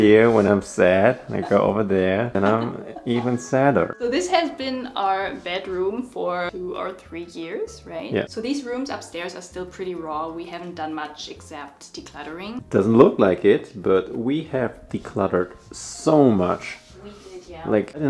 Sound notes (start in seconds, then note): 0.0 sad piano music; 1.2 laughs